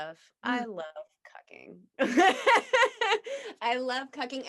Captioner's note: laughs